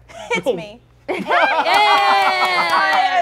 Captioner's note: cheers and applause